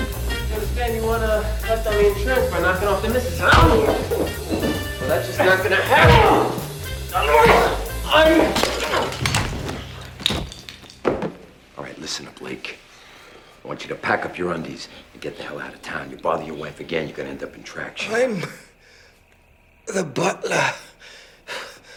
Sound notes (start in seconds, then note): 3.3 coughs; 8.6 groans